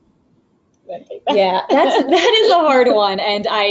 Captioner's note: both laugh